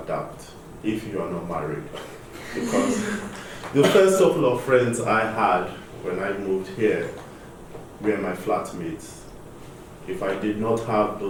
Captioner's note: laughter